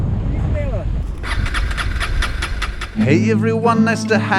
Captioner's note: engine won't start